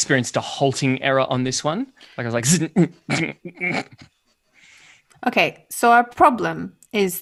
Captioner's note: glitching noises